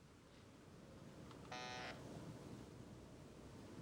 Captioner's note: buzzer ringing